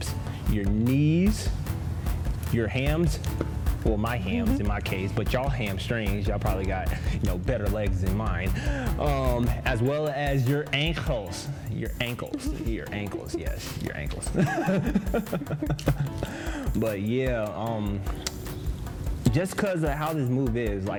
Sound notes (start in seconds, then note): 14.5 both laugh